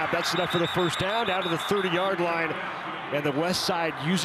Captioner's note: referee blows whistle